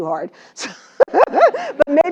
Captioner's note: laugh